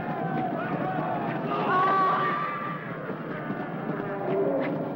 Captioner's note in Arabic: اصوات المعركة; صرخات الجندي